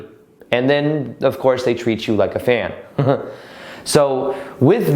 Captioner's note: laughs